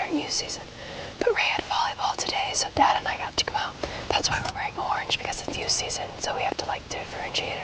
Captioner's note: whispering